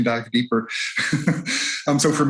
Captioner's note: chuckles